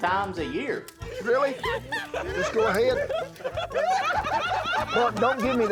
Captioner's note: laughter